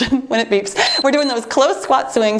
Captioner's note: timer beeps